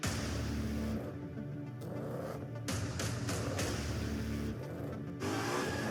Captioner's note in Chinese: 引擎轰鸣; 轮胎烧胎